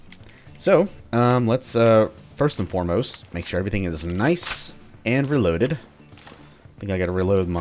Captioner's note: mag tap